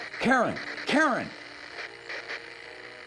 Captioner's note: line breaks up into static